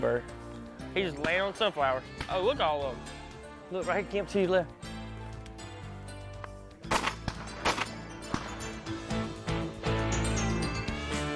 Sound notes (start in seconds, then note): 6.8 gun fire; 7.9 upbeat county music